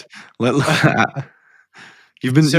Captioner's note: laughs